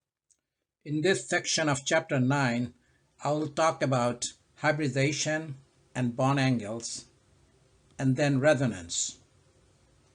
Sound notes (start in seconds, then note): 1.0 voiceover